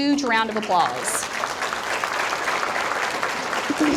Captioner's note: audience applauding